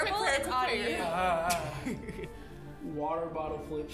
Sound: groaning anxiously; chuckling

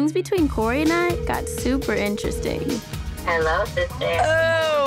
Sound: phone ringing

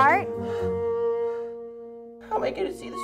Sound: breathing heavily

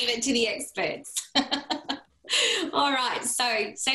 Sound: laughter

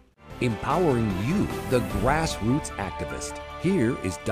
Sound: voiceover

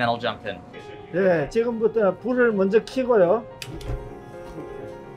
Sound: speaking Korean

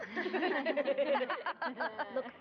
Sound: laughing

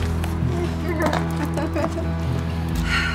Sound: laughter

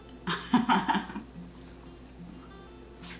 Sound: chuckles

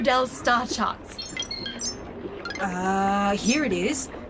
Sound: Sol beeps on their work pad

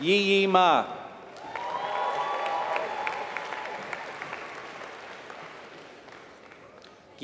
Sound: applause

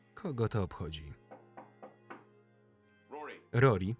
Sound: door knocking

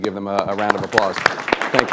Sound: applause

